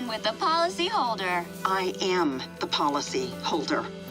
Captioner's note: woman on phone